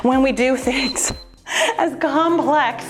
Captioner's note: timer beeps